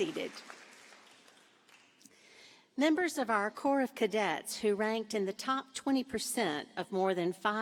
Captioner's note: applause